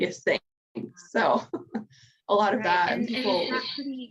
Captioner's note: chuckles